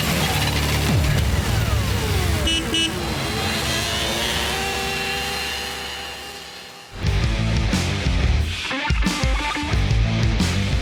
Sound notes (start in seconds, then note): 2.0 beep-beep